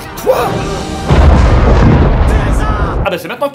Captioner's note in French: explosion